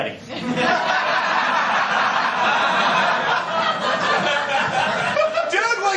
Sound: laughter

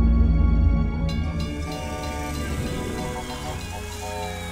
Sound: sfx: toy train and toy fire engine

